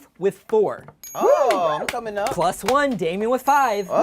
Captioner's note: claps